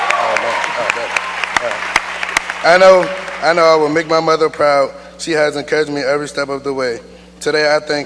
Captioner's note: cheers and applause